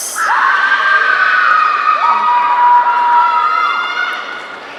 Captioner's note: audience cheering